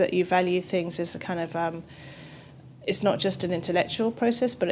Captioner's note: none